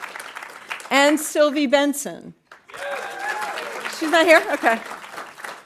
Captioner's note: audience applauding